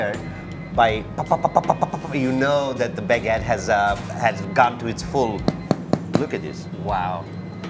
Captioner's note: tapping